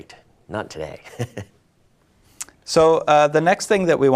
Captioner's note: laughs